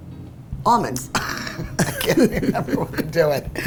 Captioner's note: laughing